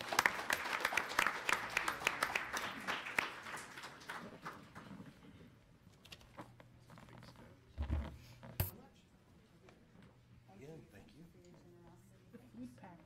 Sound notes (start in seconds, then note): 0.0 applause; 7.2 people conversing